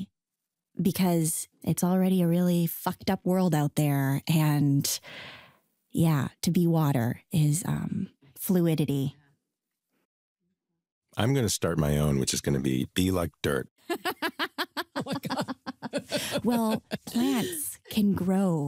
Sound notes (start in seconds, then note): 13.8 laughter